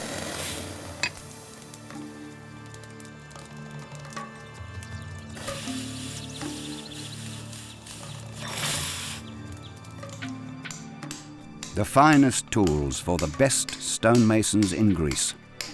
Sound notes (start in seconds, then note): 0.1 suspenseful music; 5.3 steam whooshing